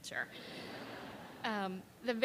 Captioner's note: laughter